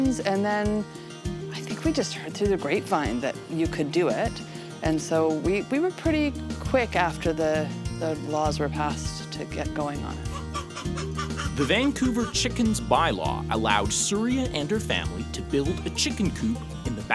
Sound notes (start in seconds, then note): 10.2 hens clucking; 11.7 voiceover